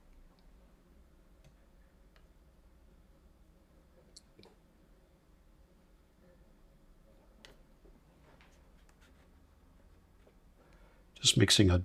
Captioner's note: silence